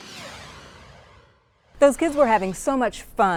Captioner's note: logo swooshes